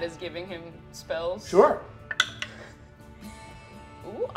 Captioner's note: dice clatter